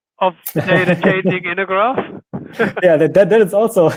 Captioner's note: laughing